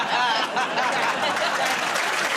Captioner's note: laughter